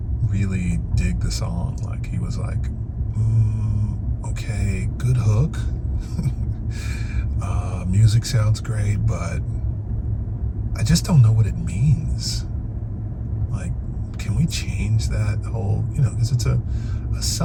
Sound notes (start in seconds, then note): 6.0 laughs